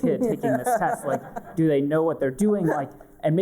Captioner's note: laughter